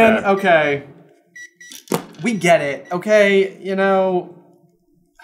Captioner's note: continued gentle beeping